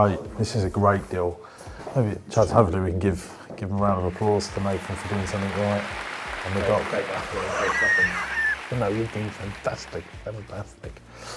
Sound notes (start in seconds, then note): 6.1 applauding; 6.4 laughs